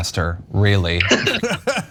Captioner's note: laugh